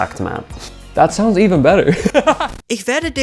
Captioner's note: laughing